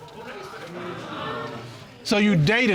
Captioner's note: audience sighs